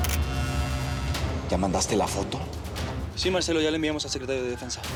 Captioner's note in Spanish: clic de la cámara